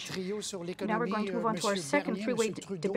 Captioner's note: speaking French